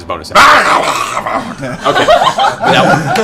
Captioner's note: incoherent rage shouting